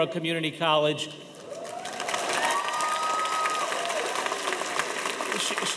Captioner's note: audience applauding